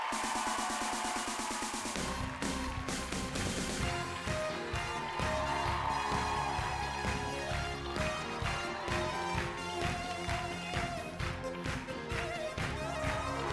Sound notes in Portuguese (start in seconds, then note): 4.0 audience clapping on beat